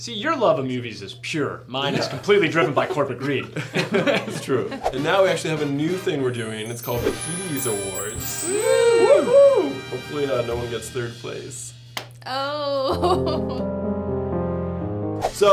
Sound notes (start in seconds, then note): 1.9 laughs; 8.2 woo; 12.9 sad music